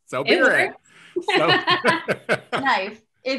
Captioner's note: laughing